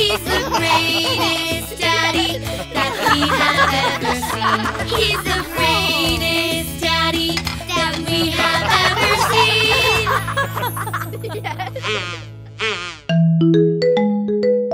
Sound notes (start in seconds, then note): 10.8 chuckling